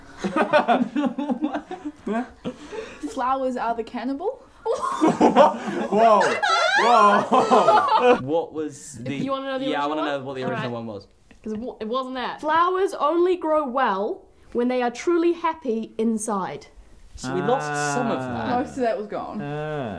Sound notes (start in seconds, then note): 0.1 laugh; 4.6 "Whats", "Woahs", and laughter